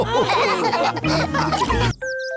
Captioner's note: all laughing